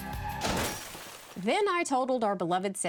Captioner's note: crash